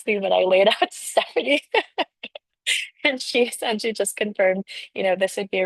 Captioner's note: laughter